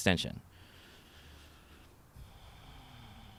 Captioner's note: sighs